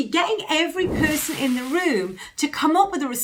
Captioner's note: whooshing sound